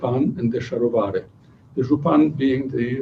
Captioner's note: non-english speech